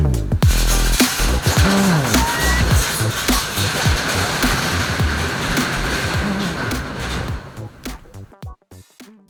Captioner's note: funk playing loudly; door closing